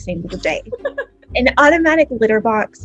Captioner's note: laughs